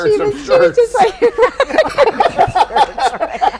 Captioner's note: all laughing